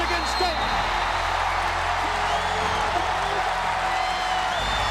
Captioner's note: crowd cheering